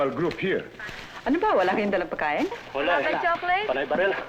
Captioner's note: non-english speech